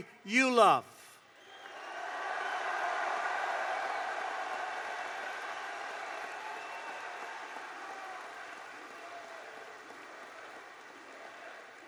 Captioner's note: applause